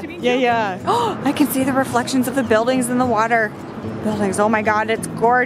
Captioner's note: gasp